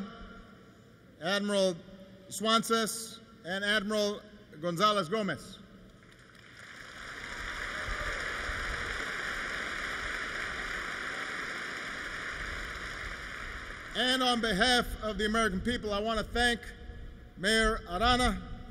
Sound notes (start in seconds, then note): 5.9 applause